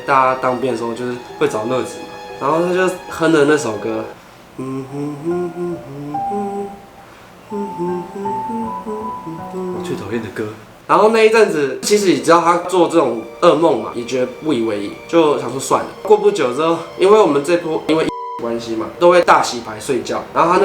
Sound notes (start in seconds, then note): 4.2 humming